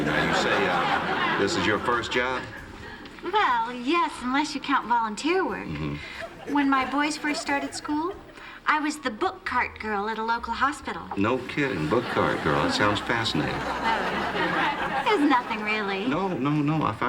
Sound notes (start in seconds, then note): 14.1 laughter